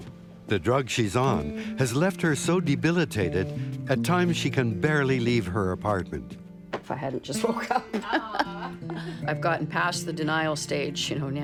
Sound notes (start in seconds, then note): 7.3 laughter